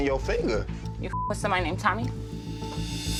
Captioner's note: beep